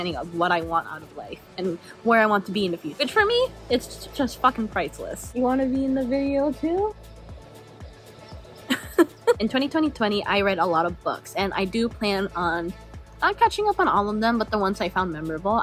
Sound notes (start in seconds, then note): 8.6 giggles